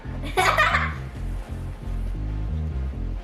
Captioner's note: laughing